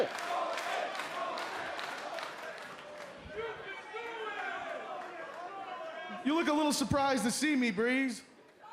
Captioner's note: crowd chatter